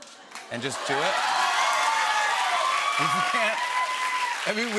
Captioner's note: cheers and applause